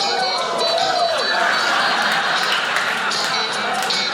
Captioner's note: audience oohs; audience laughing